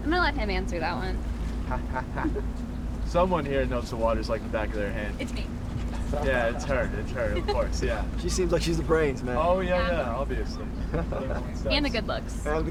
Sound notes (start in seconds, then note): 1.6 Billy laughs sarcastically; 1.6 Suzy giggles